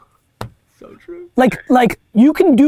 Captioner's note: laughs